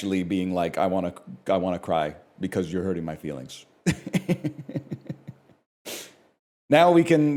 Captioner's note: laughs